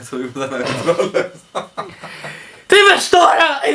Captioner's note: laughter